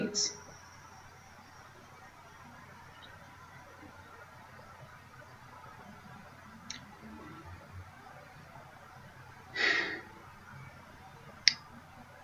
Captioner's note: long pause